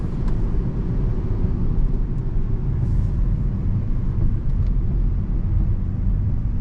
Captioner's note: engine rumbling